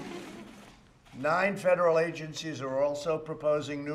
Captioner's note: laughter